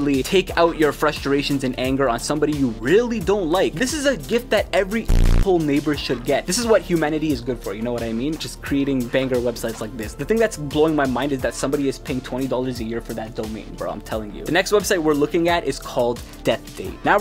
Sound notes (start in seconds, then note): 5.1 beep